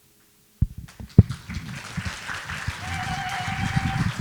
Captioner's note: applause, ululation